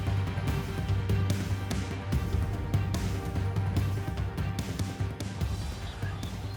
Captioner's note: the sound of birds chirping